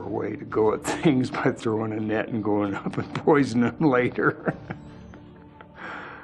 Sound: laughter

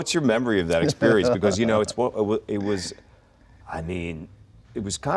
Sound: laughing

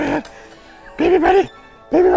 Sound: gurgling; gurgling excitedly; wheeze-laughing

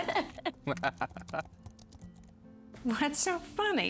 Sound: both laugh

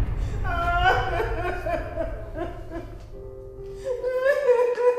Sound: woman crying

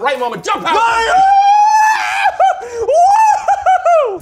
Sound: screaming

